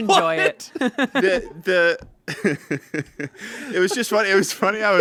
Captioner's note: everyone laughs